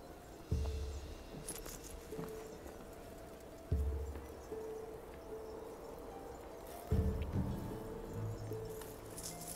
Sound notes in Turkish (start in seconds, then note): 1.4 Metal para şıngırtısı